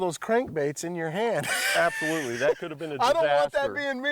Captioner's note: cackling